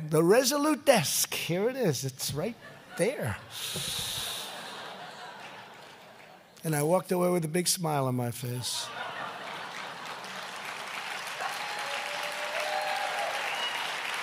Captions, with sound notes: The Resolute Desk -- here it is. It's right there." (laughter) And I walked away with a big smile on my face. (Laughter and applause.) But because of the